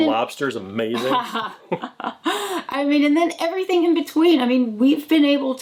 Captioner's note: laughs